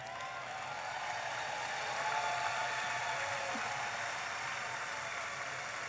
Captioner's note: audience applauding and cheering